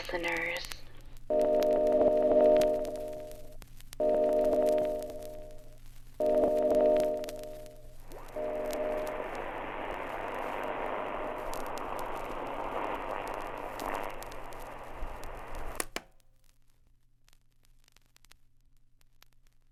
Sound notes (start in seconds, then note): 3.2 chiming music; 3.2 radio clicks off; 3.2 static